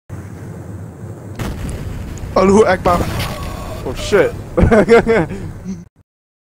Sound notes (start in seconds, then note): 1.3 pipebomb explosion; 3.3 laughs